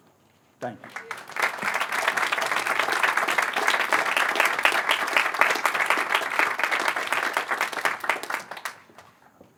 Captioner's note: applause